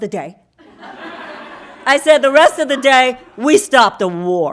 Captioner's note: audience laughing